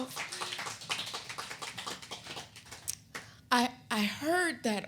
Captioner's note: audience clapping